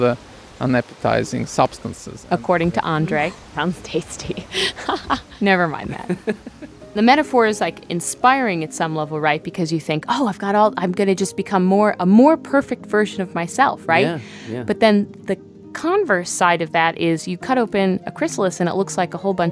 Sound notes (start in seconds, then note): 4.0 laughs